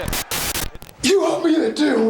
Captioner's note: static crackling; graphics hissing; crowd cheering